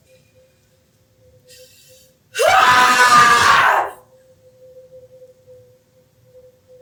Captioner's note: yells